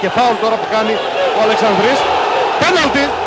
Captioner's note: crowd going wild